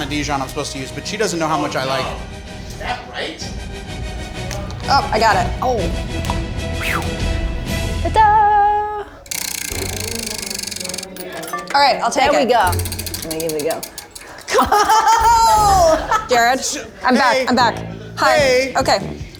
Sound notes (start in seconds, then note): 9.2 wheel whirring; 9.4 suspenseful music